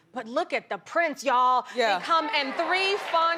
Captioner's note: audience applauding